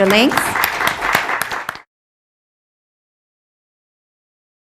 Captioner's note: applause